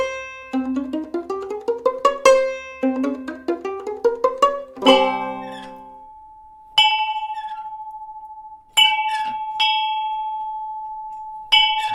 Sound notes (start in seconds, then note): 4.8 bell clanging; 4.9 lively music continues